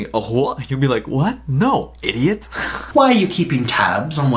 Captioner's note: laughs